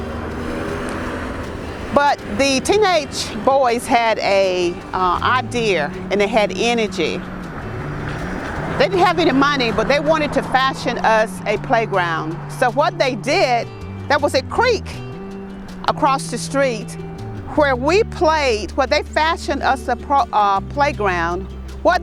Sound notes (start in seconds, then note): 0.1 engine revving; 7.7 engine revving